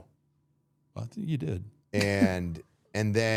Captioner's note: chuckles